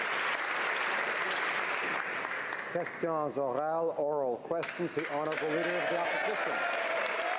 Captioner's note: applause